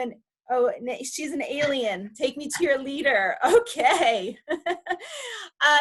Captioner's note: laughs